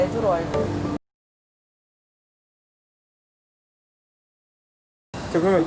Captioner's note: silence